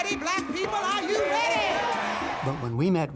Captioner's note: cheering and applause